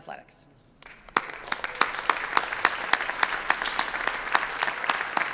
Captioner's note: audience applauds